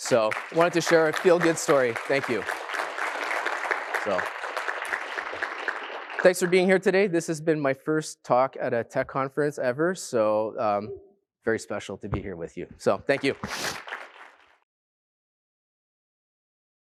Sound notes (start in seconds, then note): 0.0 applause; 13.0 applause